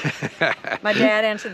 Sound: laughing amusingly

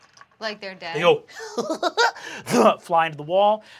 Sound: laughs

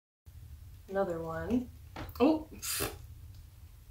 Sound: pfffft

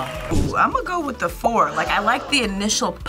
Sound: crowd gasps

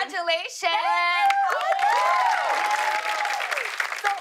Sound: cheers and applause

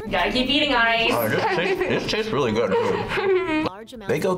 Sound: laughs

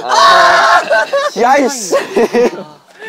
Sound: sobbing

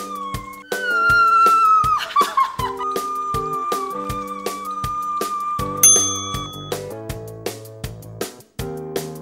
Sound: screams

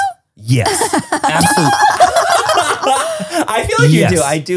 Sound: everyone laughs

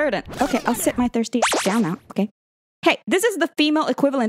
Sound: beep

